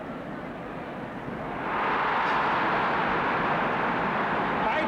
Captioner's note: crowd roars